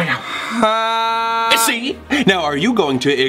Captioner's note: cries